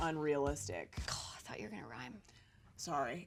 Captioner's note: scoffs